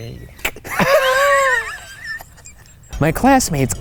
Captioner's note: both chuckling